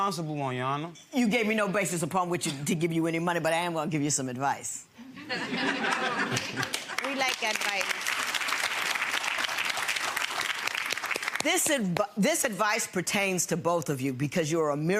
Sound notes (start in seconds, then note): 5.2 audience laughs and applauds